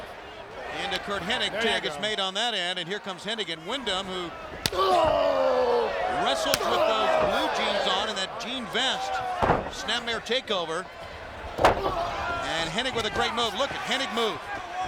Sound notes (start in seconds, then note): 4.5 hand slapping; 4.7 groans